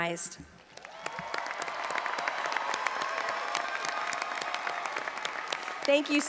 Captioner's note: audience applauding and cheering